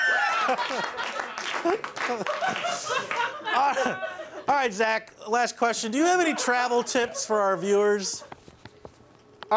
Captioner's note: laughter; applause